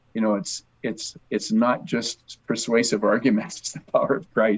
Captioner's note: chuckles